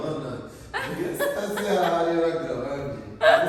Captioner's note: laughing